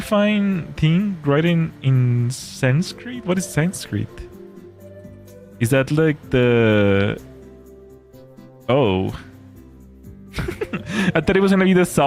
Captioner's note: laughter